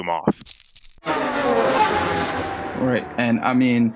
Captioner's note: change clinking, engine buzzing